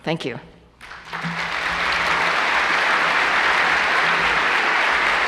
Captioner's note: applause